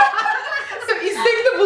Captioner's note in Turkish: gülüşmeler